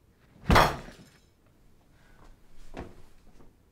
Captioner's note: loud thud